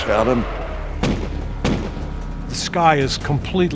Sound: artillery fire

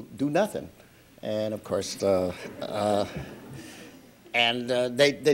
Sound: audience laughter

